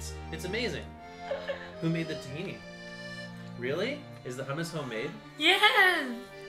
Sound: laughing

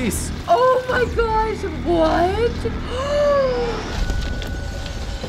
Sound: gasps

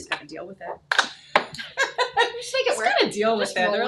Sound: both chuckle

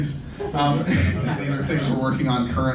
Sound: laughing

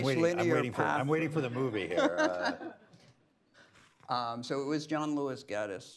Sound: laughs

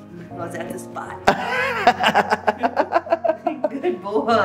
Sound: laughter

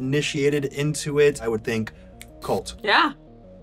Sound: snaps

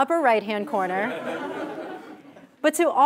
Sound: laugh

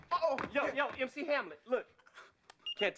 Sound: beeping

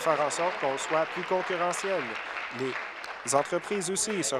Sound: applause

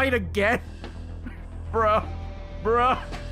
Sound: laughs

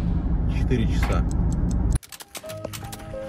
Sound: clock ticking

